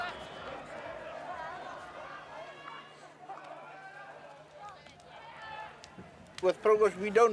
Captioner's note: indistinct chatter